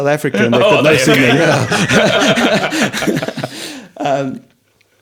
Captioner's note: all laughing